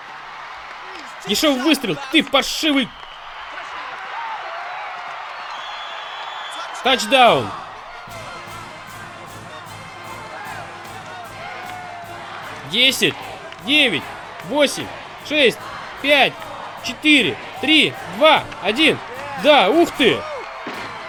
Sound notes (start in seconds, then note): 3.2 crowd cheering; 7.7 marching band playing; 9.2 crowd cheering